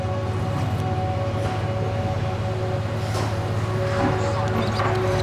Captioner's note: horn blaring in the distance